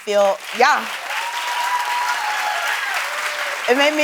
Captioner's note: applause